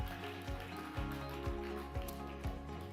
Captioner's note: audience applause